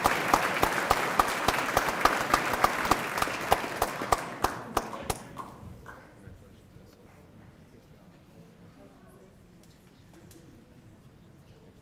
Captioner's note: applause